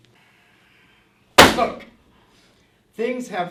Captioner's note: book slams on desk